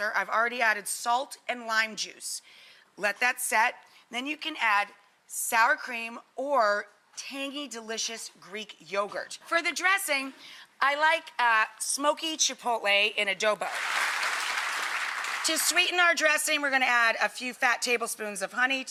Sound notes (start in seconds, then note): 13.6 audience applauds